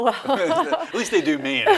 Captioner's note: laughs